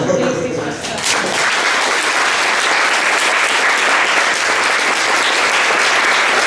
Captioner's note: applause